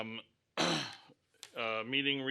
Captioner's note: clears throat